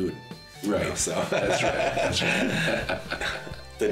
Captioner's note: both laughing